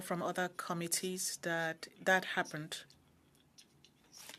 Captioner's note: speaking French